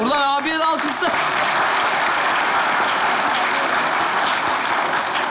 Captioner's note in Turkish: Alkış sesleri